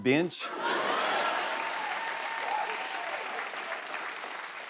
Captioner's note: laughter, cheers and applause